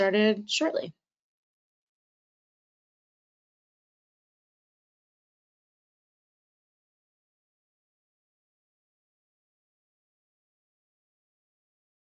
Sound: silence

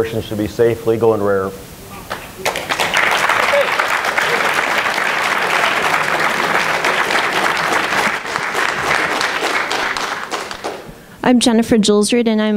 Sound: applause

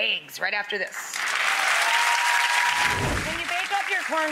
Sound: audience applauding; audience cheering

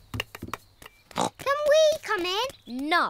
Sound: snorts

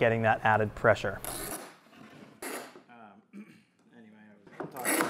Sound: clamps buzzing

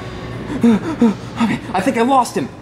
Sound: panting

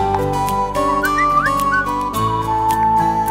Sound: cell phone chimes

